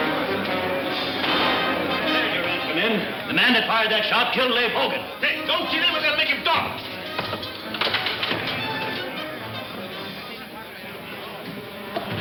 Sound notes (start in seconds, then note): 0.0 bar patrons chattering; 0.0 dramatic orchestral music; 1.2 gun fires; 6.5 men chattering; 6.5 suspenseful music